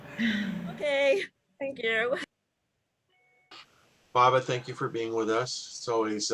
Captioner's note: chuckling